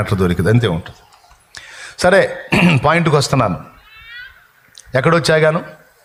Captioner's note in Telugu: గొంతు సవరించుకోవడం